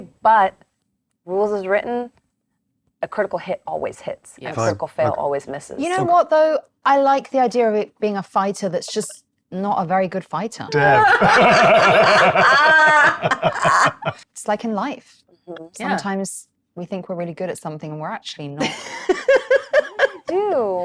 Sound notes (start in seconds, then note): 10.7 laughs; 18.6 laughs